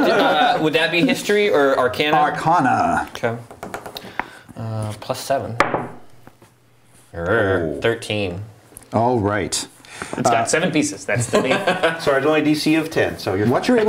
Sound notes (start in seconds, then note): 6.5 die rolls